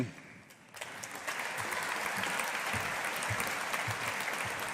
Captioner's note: audience applauding